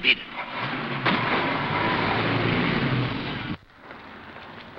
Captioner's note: car accelerating